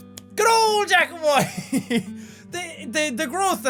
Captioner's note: laughs